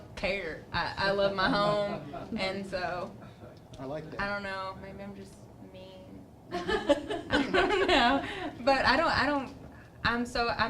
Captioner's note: laughter